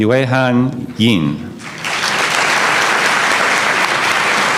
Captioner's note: applause